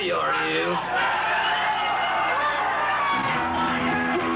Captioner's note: crowd cheering